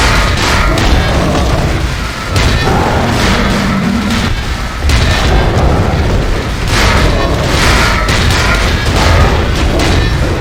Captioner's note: awful in-game noise